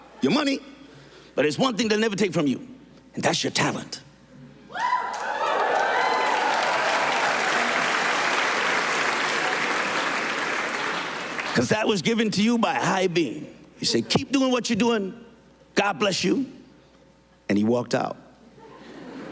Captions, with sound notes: your money, but there's one thing they'll never take from you, and that's your talent. ( CHEERS AND APPLAUSE ) Because that was given to you by a higher being.” He said, “Keep doing what you're doing. God bless you." And he walked out.